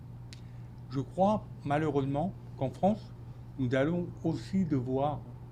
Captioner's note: speaking French